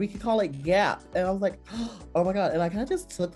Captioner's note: gasps